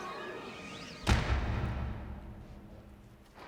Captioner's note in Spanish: la puerta se cierra